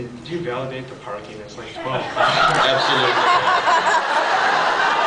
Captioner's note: laughs